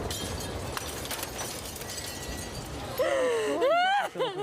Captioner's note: glass clatters; woman cries